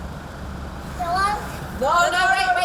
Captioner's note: baby talking